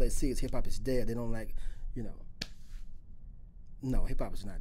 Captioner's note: claps hands